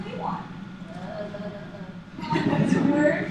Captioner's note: groan